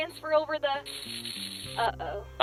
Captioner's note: glitching out